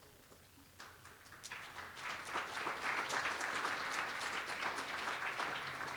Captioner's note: applause